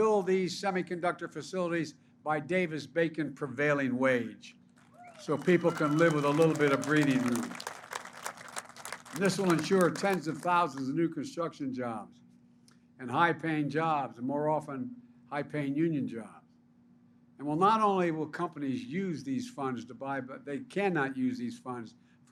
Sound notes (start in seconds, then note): 4.8 applause